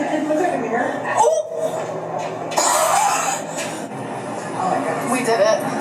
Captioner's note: laughs